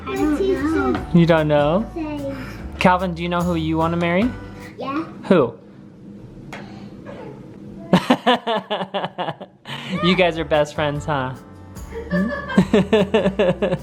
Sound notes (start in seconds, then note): 7.9 laughs; 11.9 laughs